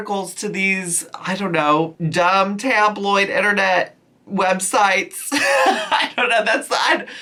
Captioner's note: laughs